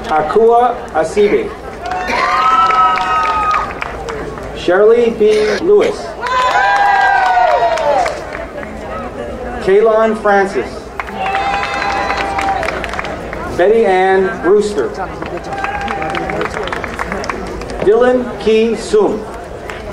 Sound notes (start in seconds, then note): 1.6 crowd cheering; 6.1 crowd cheering; 11.0 crowd cheering; 15.0 crowd cheering; 19.6 crowd applauding